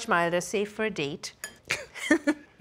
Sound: laughter

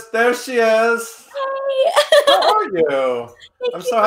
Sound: laughing

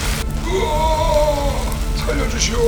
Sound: screaming

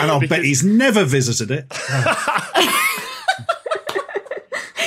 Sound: group laughing

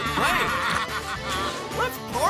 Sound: laughing

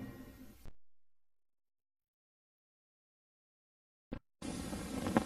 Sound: silence

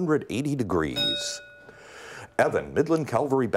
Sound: bell rings

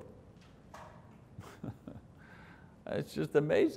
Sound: laughing

